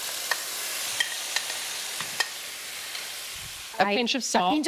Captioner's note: tomatoes sizzling